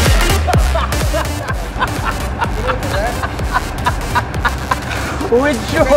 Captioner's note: laughing